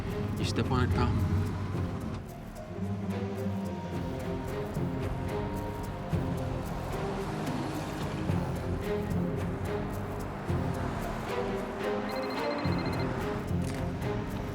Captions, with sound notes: Can you step on it, pal? [PHONE RINGING]